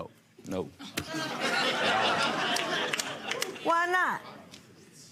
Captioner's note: audience laughing